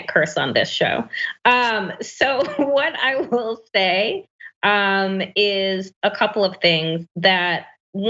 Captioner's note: laugh